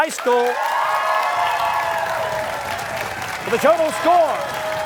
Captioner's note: cheers and applause